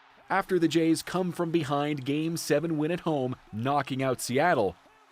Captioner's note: cheers and Applause